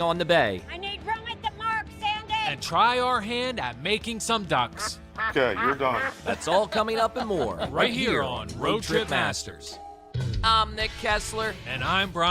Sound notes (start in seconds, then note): 5.1 quacking; 5.3 laughs; 10.1 rock music